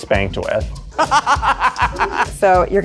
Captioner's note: laughs